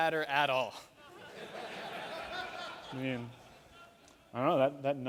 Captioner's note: laughter